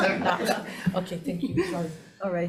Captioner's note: audience laughing